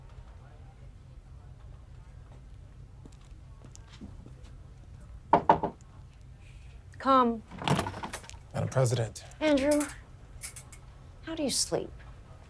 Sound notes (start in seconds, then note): 5.3 knocking at door